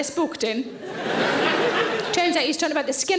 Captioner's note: audience laughing